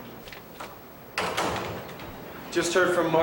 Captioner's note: door closing